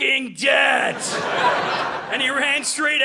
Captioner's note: audience laughing